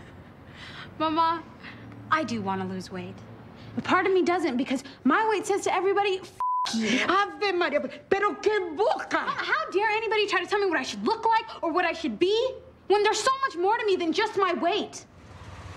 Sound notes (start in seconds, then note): 0.1 laughs; 6.4 beep; 7.2 speaks in a foreign language